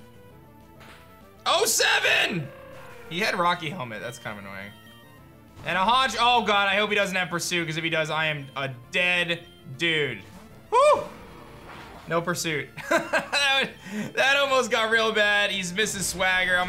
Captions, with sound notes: o7! He had Rocky Helmet. That's kind of annoying. And a Honch... Oh god. I hope he doesn't have Pursuit because if he does, I am a dead dude. Whoo! No Pursuit. (laughs) That almost got real bad. He's missed his Swagger.